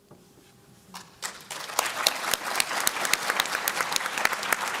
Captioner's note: applause